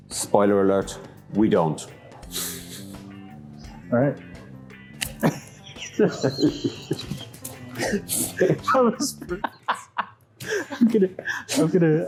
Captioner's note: fumbles the handshake and both laugh hard